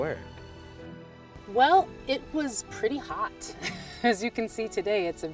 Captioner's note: chuckles